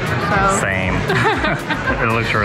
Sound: laugh

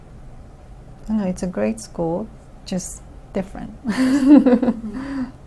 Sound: all: laughs

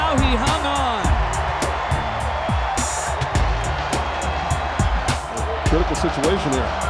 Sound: crowd cheering

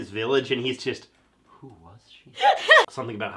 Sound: laughing

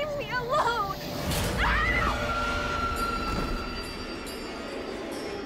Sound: grace screaming

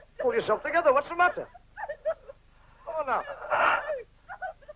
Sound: gasping

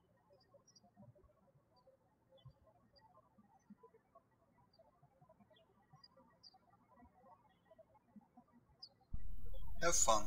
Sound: birds chirping

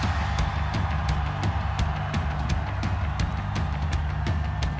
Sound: cheering

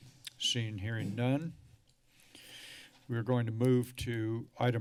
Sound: sigh

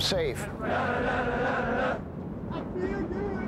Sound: men chanting

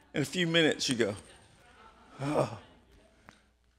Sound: softly sighs

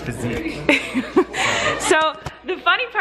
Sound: laughs

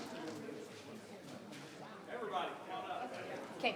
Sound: people clapping; people chattering

